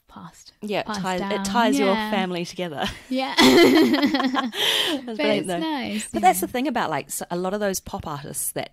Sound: laughs

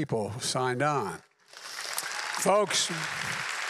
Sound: applause

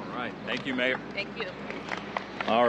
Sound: applause

